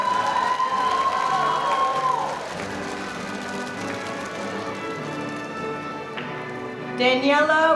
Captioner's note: applause